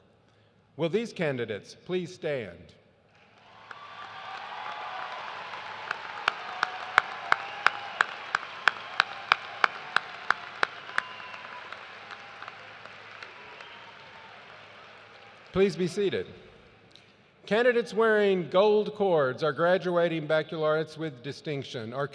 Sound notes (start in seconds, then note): 5.5 cheers and applause